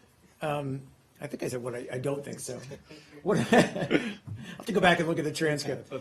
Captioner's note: laughter